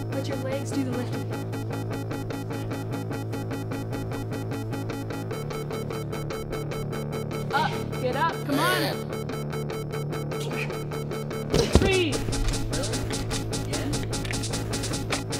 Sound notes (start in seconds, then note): 10.2 squealing